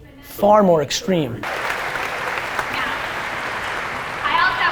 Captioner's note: applause